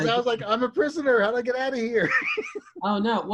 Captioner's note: laughing